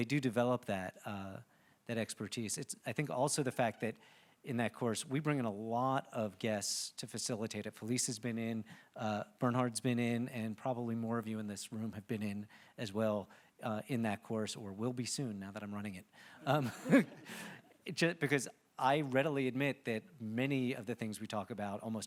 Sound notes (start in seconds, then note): 16.5 chuckles; 16.8 audience laughing